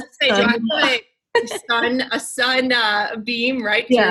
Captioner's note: murmurs